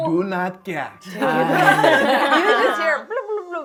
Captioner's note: laughing